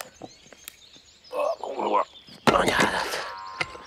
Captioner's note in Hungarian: grunts